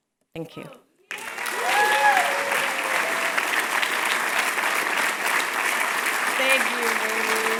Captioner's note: applause